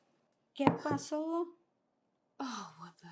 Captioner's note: Spanish